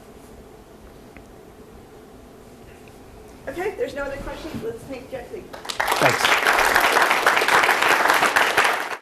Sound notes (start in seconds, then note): 5.5 applause